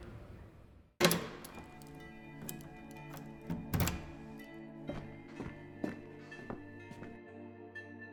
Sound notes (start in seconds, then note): 1.0 door closes; 4.8 footsteps; 6.8 cryptic music